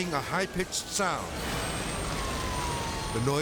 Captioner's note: siren wailing